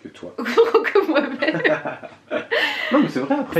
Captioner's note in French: rires